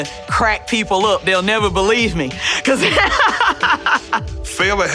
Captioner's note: laughing